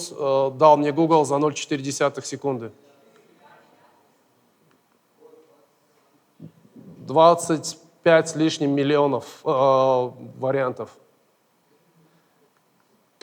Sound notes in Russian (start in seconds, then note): 2.9 голоса из зала